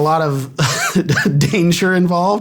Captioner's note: chuckles